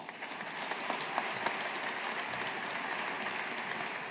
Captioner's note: audience applauding